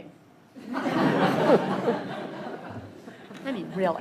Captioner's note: laughter